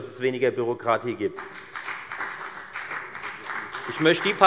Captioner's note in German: Beifall bei der FDP